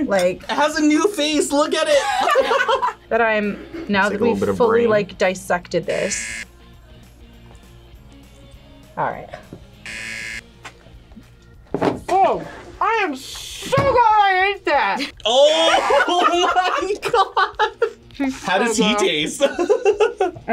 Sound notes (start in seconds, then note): 1.9 laughs; 6.0 buzzer rings; 9.8 buzzer rings; 15.2 both laugh